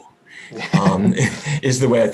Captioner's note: laughing